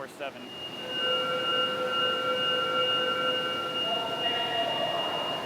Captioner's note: SCADA System beeping; beeping